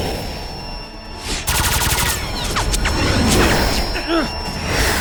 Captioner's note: blasting